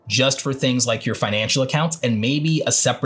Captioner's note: none